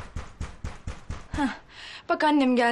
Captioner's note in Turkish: kapı çalıyor